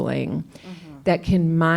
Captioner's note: clears throat